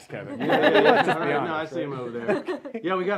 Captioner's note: laughing